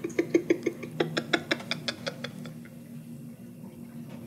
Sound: laughing

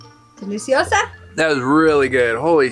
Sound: speaking in foreign language

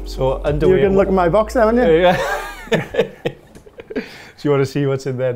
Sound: laughs

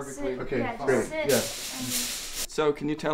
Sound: foil rummaging

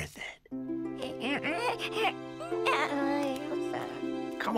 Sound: baby making noises

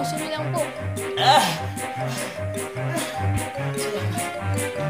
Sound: exhales

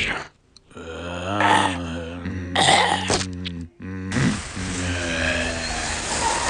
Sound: zombies moaning

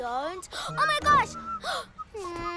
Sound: gasps

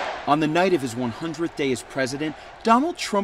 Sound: nats up "USA! USA!"

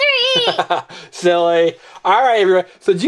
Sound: laughs

